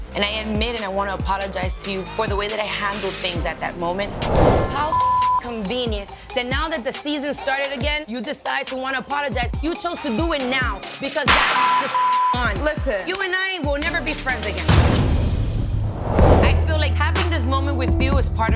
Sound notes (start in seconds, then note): 4.7 beep; 11.5 beep